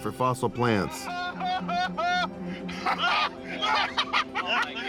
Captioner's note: laughing